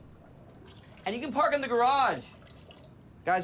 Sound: urinating

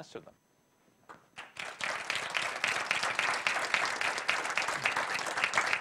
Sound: applause

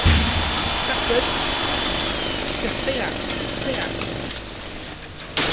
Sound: jackhammer Sound; more bangs; power tools turn off

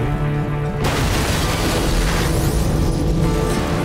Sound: boom

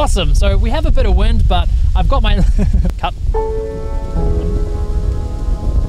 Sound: laughs

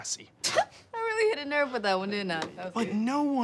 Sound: chuckles

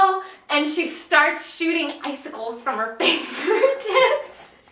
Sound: laughing

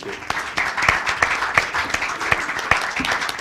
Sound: applause

